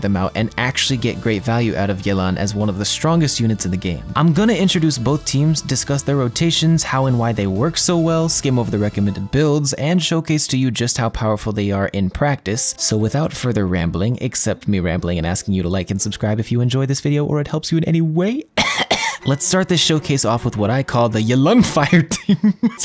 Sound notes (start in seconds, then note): 18.6 ahem